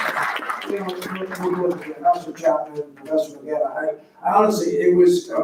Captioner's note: faintly speaking